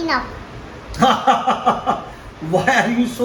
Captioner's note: hahahahahaha